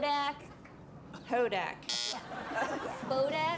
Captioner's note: buzzer